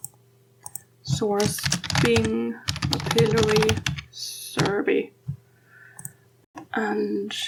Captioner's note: typing